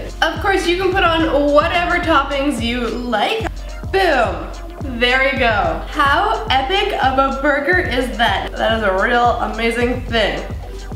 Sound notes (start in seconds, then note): none